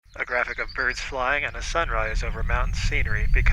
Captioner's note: birds chirping